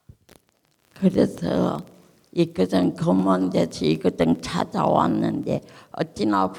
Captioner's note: speaking in foreign language